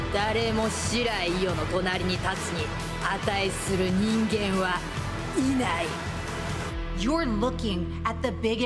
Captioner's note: foreign language